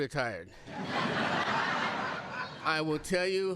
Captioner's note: laughter